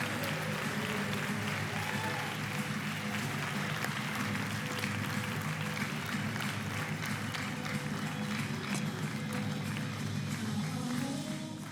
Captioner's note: cheering and applause